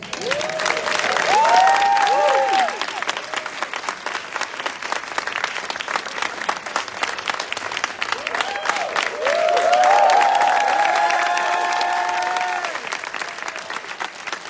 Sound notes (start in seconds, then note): 0.1 audience applauding; 8.0 audience continuing to cheer